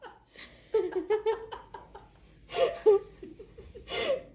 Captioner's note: laughter